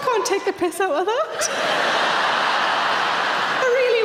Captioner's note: audience laughing